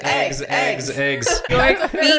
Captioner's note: laughing; chanting